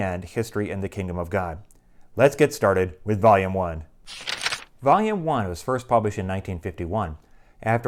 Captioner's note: page turning